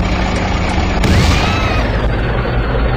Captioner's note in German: Krachen, Frauenschrei